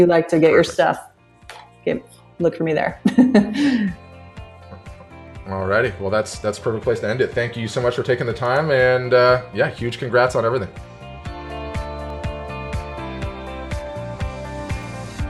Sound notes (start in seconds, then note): 3.0 laughs; 11.5 upbeat instrumental music